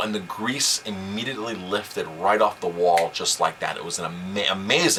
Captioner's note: snap